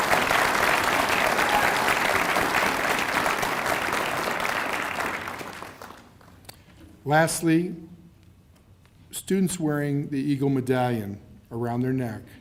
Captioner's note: cheers and applause